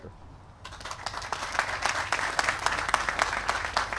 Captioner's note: applause